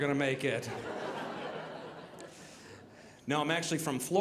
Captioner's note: audience laughing